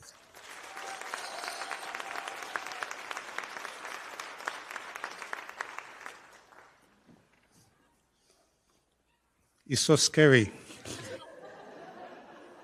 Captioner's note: applause